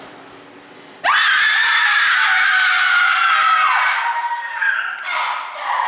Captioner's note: CHORUS LEADER cries out in anguish